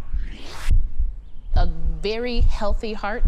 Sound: heart beating

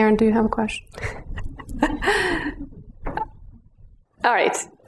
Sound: chuckles

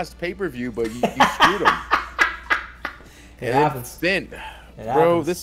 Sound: laugh

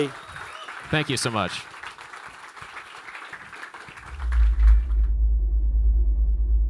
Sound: audience applauds

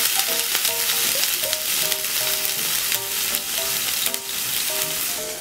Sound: sizzle

